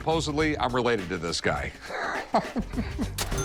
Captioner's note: laughs